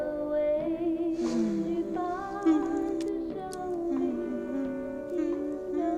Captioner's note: continues humming along